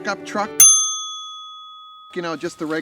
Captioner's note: bell dings